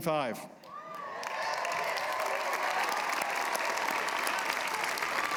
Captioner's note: applause